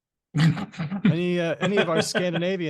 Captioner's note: laughs